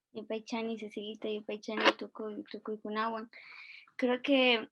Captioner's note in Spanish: Hablando en Quichua